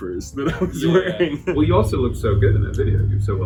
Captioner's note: laughing